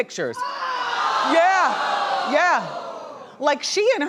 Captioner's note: audience groaning